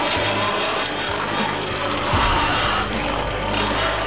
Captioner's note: music intensifies; growling; tearing